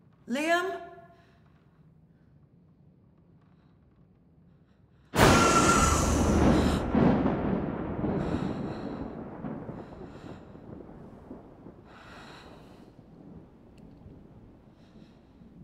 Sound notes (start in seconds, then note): 5.4 gasps; 6.1 thunderclap